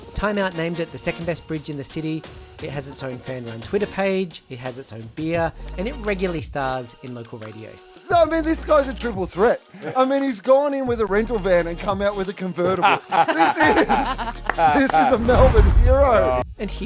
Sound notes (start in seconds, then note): 12.6 laughing